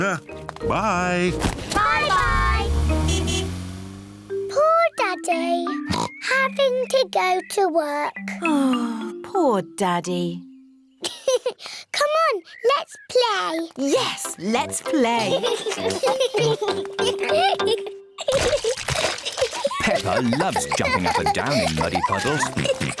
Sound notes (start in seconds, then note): 1.6 toots horn; 5.9 oinks; 11.1 laughs